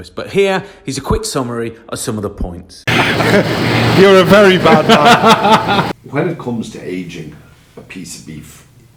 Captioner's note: laughs